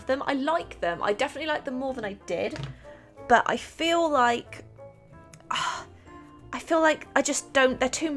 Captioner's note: sighs